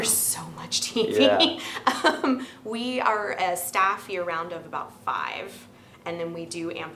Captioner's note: laughing